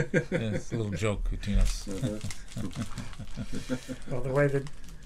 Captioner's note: laughs